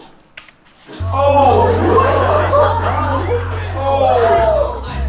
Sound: students exclaiming

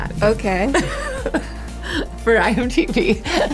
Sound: laughs; laughs

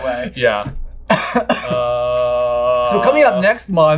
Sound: coughs

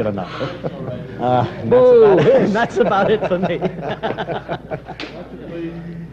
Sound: laughter

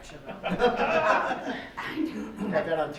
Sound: laughing

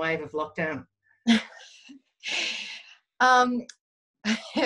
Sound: laughing

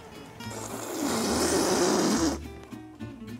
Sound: slurping

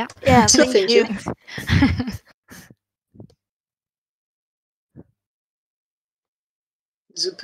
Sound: laughs

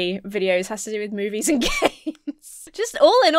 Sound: laughs

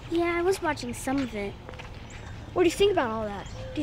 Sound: none

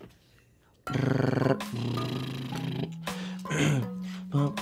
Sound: lip trills; clears throat

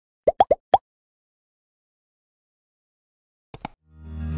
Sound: bubbles popping

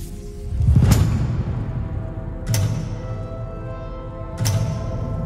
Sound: lights click

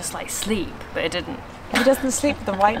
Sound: laughs

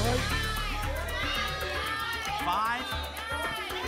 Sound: audience shouting numbers

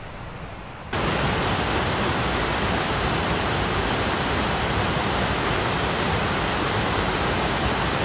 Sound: sound of waterfall

